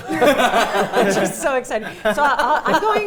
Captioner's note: laughing